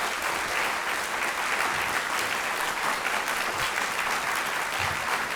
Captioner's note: audience clapping